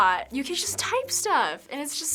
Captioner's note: none